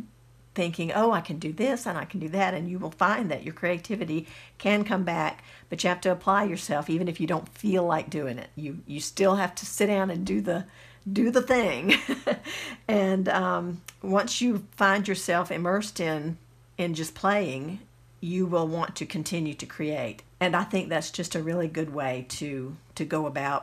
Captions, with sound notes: Thinking oh, I can do this and I can do that and you will find that your creativity can come back but you have to apply yourself even if you don't FEEL like doing it you you still have to sit and do the do the thing (giggles) and Once you find yourself immersed in and just playing You will want to continue to create and I think that's just a really good way to to go about